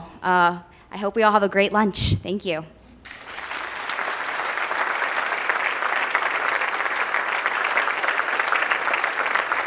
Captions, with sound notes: I hope we all have a great lunch. Thank you. (audience applauding)